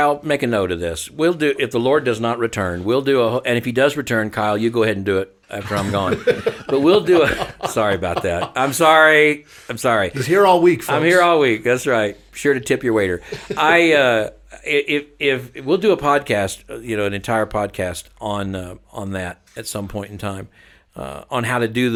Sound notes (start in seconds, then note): 5.6 laughing